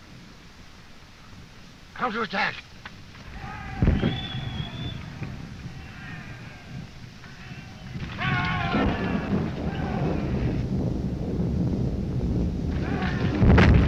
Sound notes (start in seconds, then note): 3.1 soldiers shouting